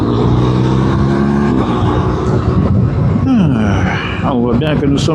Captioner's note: engine